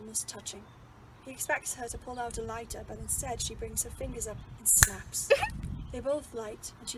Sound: pleased trilling noise

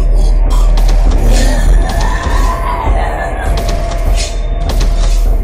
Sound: growl laugh

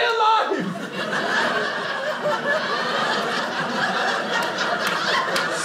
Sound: audience laughing

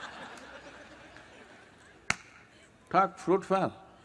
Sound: gestures – Claps

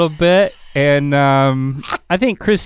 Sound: laughs

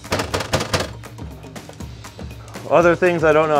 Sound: banging

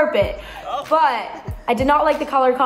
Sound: housemates laughing

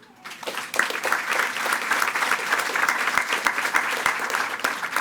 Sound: attendees clapping

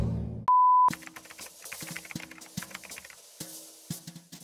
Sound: typing

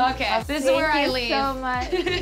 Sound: laughing; upbeat music

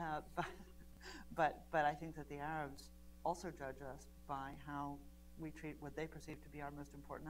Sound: laughs

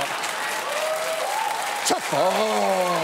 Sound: audience applauds, cheers

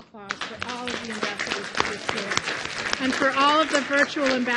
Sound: applause

